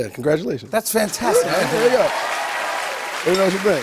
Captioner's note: cheers and applause